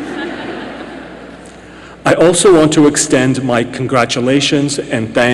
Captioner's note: laughter